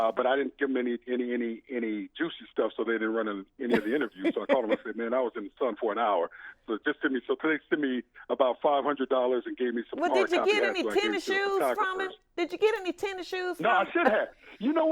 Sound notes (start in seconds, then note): 3.7 laughs